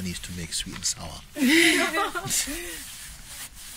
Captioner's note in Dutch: gelach